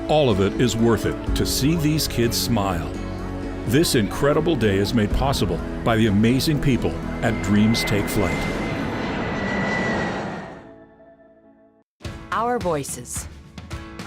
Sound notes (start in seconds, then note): 8.8 airplane engine roaring